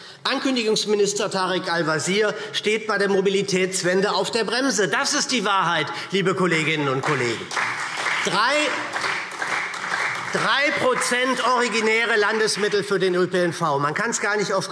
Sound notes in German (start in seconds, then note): 8.8 Beifall SPD